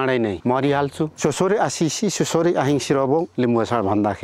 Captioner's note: limbu dialect